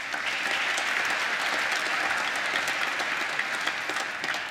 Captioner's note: applause